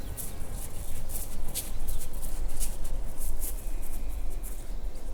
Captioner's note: birds chirping